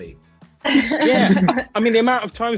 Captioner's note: all laughing